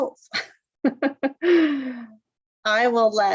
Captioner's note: laughter